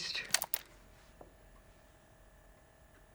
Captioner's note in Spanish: grabadora hace clic; grabadora zumba silenciosamente